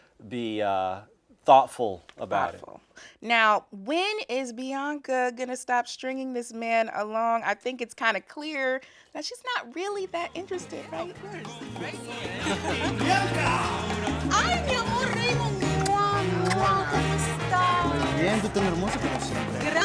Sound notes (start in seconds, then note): 14.8 kissing Sounds; 16.9 speaking Spanish